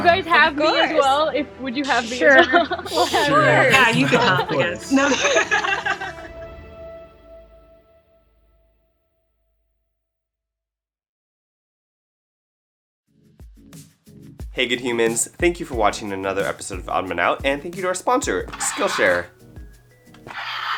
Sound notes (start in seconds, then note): 2.8 laughs; 8.6 laughs; 20.3 crying sound